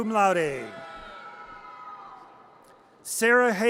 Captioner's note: audience cheers